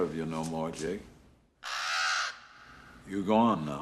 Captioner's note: cawing